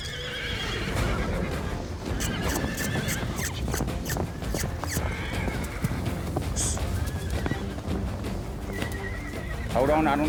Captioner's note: blows; horses neighing